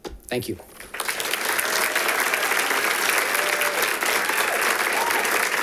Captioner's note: audience applauding